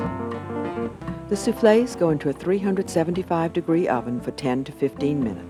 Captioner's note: voiceover